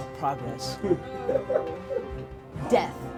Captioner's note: player laughs